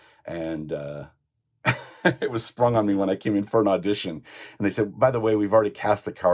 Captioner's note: laughs